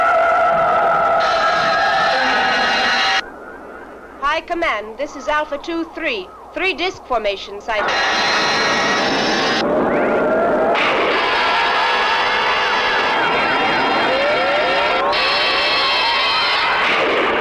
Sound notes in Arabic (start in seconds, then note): 7.8 أشعة الليزر; 7.8 موسيقى مخيفة